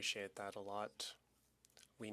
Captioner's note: speaking French